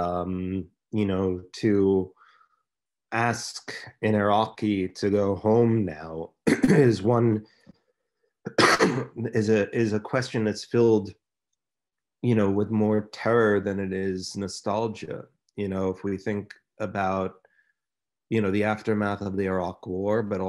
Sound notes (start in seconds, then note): 6.4 clears throat; 8.4 coughing